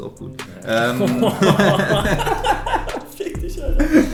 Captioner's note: both laughing